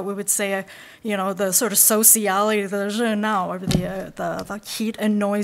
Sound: speaking in Mandarin

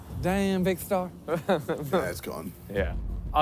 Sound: laughs

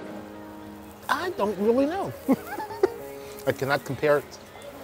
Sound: chuckles

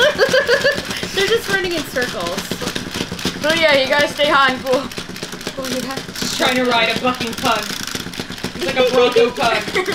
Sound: laughing

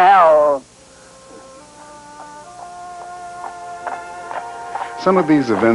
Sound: slow clopping

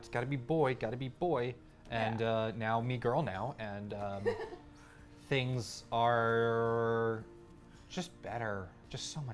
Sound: laugh

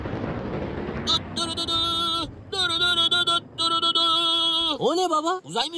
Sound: makes noises like space movie effects

